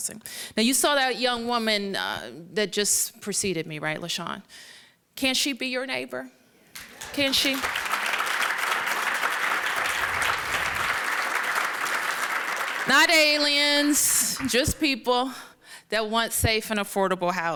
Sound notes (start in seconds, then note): 9.2 applause